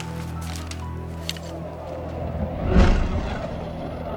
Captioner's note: whooshing